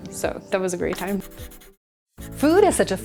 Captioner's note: pencil scratching